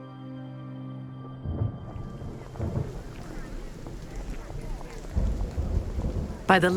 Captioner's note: thunder rumbling